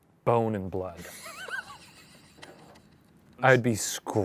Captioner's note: laughs